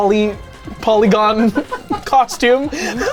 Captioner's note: people laughing